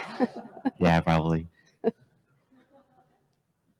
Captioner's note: laughs